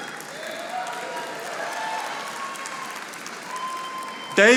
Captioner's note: audience applauding